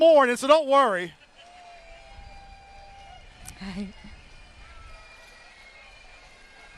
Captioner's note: laughter